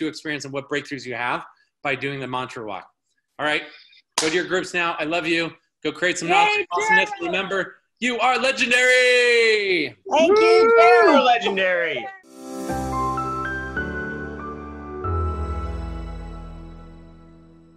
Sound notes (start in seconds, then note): 4.1 clapping hands; 10.1 woman yelling; 11.6 soft music